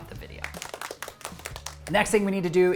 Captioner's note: audience applauds